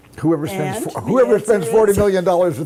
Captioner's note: laughing